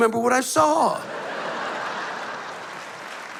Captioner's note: laughter